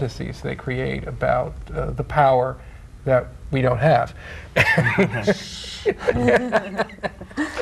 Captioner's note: laughing